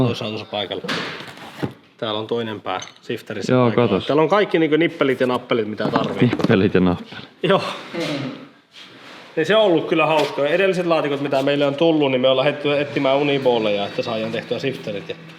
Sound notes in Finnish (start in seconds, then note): 7.1 naurahtaa